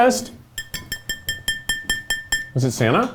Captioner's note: glass clinking